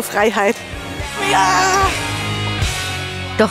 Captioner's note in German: jubelt